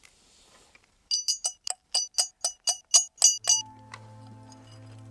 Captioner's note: metal clanging; slow dramatic music